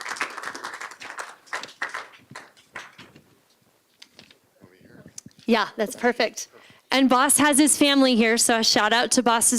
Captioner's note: applause